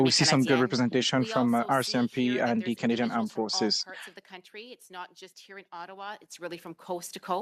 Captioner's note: speaking French